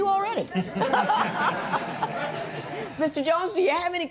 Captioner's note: laughter